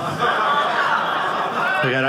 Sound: audience laughing

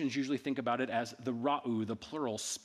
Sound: speaking in ancient Egyptian

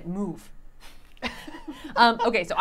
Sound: chuckling

